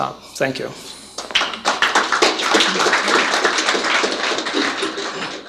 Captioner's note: applause